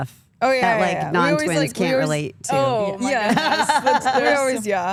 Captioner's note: laughs